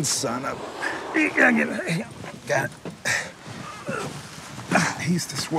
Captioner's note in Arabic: الشخير